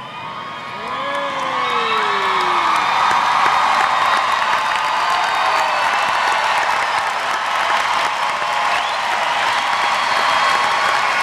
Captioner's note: cheering